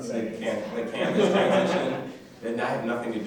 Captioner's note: laughter drowns out both speakers